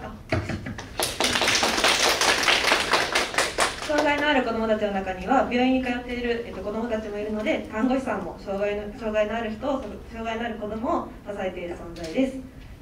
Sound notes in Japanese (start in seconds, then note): 0.7 拍手